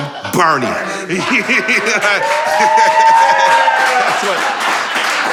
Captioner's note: laughter and applause